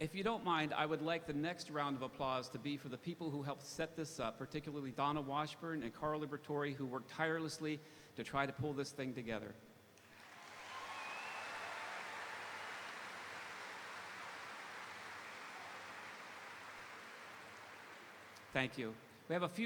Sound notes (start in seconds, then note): 10.0 audience applauding; 10.0 audience cheering